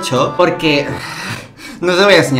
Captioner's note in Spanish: suspiro